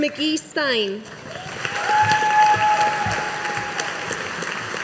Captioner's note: audience applauding